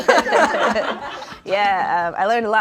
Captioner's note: everyone laughs